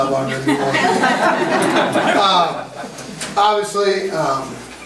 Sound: group laughs

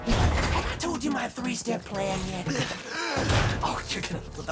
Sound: Sonic gasping for air

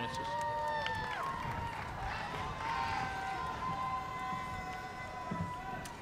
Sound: cheers and applause

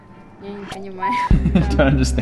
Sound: speaks foreign language

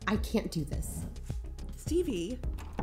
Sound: chair moves

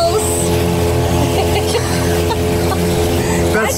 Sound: laughs

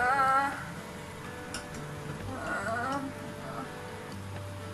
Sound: unintelligible groaning

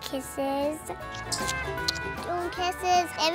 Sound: kissing noises

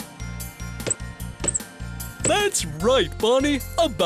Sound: sound of a bouncing ball

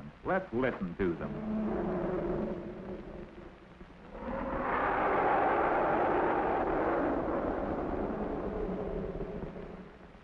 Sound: elephants trumpeting

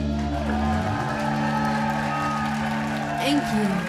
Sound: applause

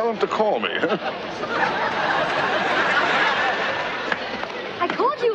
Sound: audience laughter

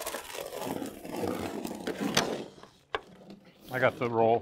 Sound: cutter scraping

